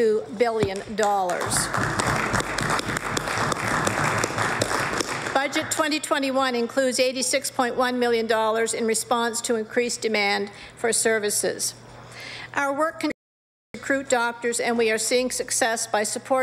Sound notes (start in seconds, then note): 8.8 applause